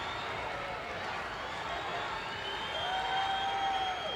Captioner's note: applause